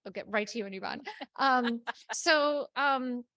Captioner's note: speaker laughing